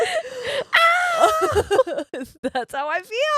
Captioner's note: shrieking